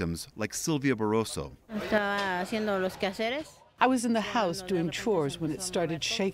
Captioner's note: through translator